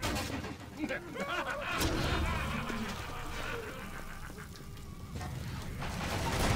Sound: laughter

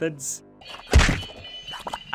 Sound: whack

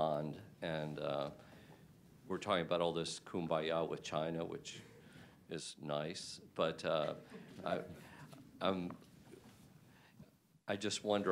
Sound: laughter

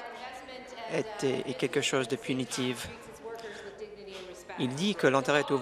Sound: applause

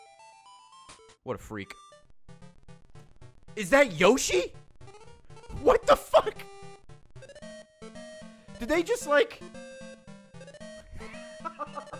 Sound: laughs

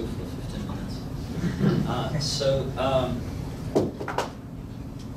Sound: audience laughing

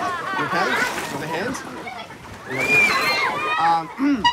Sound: children squeal; splash; scream; clears throat, honks horn

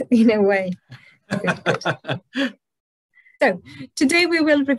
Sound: laughs

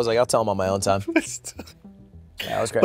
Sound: laughs

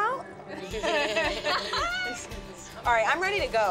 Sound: laughter

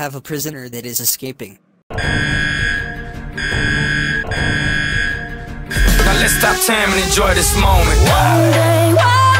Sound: alarm beeps x2

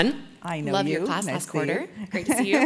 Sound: laugh

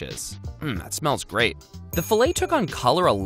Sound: bell dings

